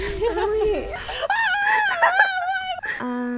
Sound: screams

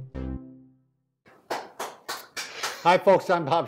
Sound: clapping

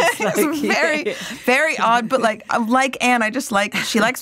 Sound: laughs

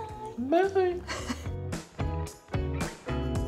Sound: laughing; soft upbeat music

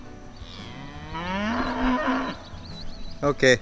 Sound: cow mooing

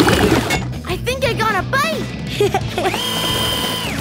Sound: giggling

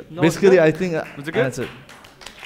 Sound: audience applauding

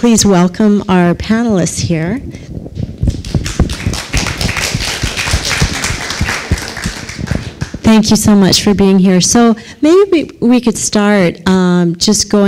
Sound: applause

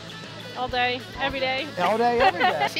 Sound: laughs

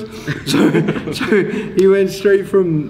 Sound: everyone laughing

